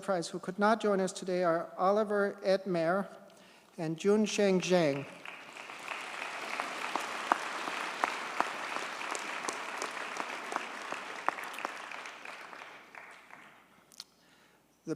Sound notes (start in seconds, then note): 4.9 audience cheers and applauds